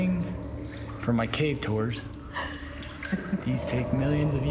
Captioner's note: laughs